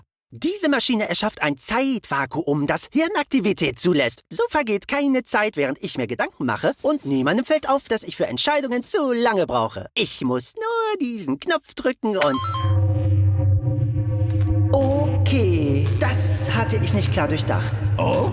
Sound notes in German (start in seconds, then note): 12.3 bing!